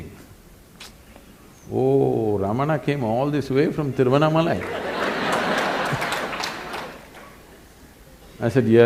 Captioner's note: laughter/Applause; 笑聲/掌聲